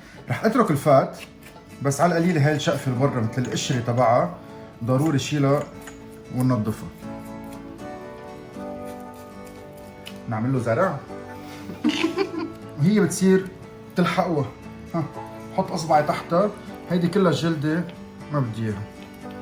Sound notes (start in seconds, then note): 11.6 laughter